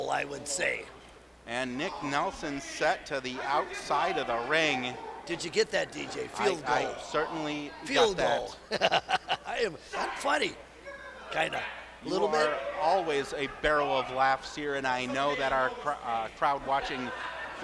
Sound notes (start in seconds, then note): 8.6 laughs